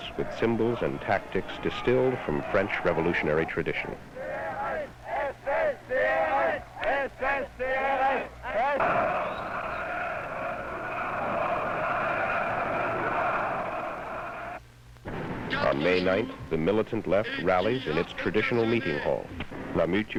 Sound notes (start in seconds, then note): 5.3 chants